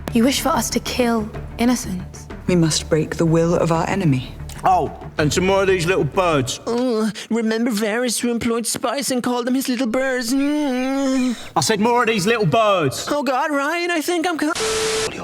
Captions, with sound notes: You wish for us to kill innocents. We must break the will of our enemy… Oh, and some more of these little birds. Uh, remember Varys who employed spies and called them his “little birds” hmm? (groans) I said more of these little birds! Oh, God, Ryan I think I’m c–